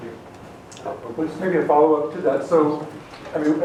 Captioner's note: voiceover